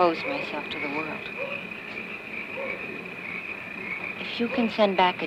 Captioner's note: dog barking